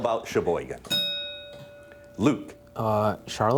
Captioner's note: bell dinging